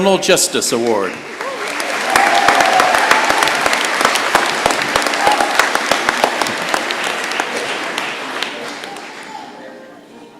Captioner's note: cheering and applause